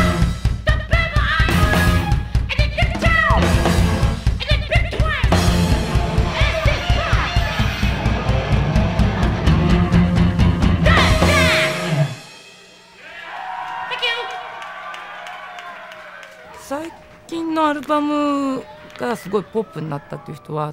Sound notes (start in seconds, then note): 8.0 electric guitar rock music; 12.8 crowd cheering; 16.7 speaking in foreign language